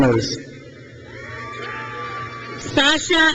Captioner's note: crowd cheers